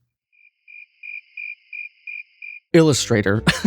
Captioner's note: crickets